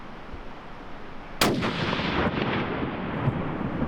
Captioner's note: gunshot